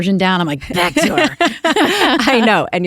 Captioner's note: laughter